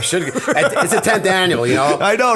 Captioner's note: laughter